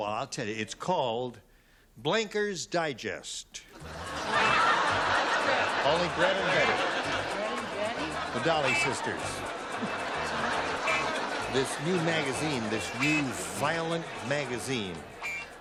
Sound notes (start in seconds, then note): 3.1 laughter